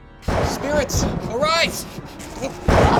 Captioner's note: thunder claps